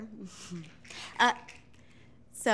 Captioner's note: fingers snapping